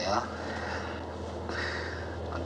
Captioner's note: chuckles